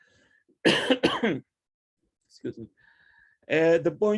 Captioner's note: coughs